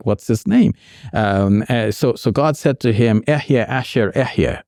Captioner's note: speaking Arabic